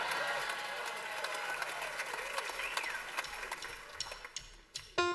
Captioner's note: cheers and applause